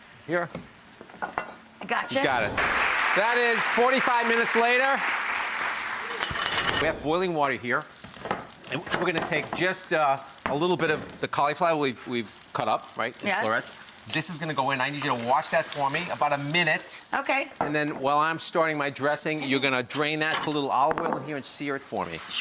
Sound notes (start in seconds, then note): 2.1 air whooshing; 2.1 audience clapping; 5.6 air whooshing